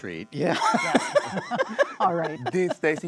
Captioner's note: laughing